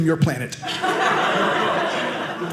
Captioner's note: audience laughing